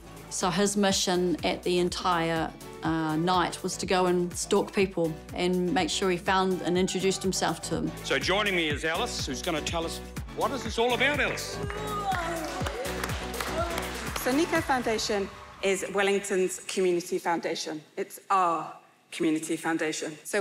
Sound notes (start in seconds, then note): 10.6 applause